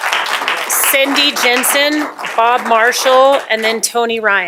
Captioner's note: applause